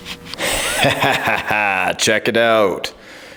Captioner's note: laughs